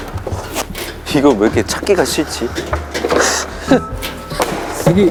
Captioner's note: fumbling